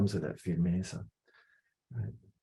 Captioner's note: non-english speech